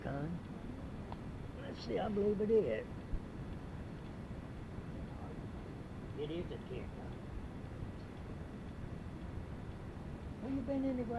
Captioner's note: speaking to pet